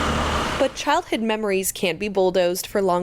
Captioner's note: truck engine roaring